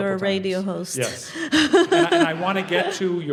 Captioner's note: laugh